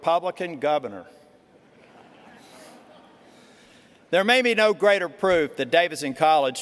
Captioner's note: laughter